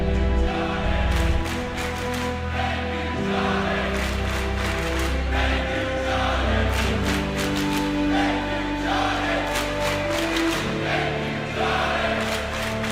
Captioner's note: fans chanting